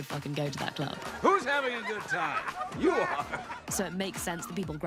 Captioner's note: laughs